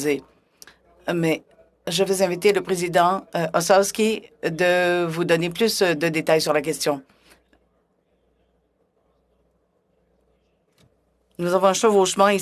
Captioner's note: speaking French